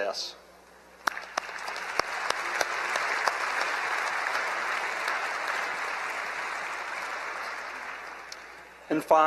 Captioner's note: applause